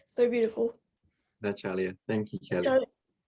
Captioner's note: speaking in Kaurna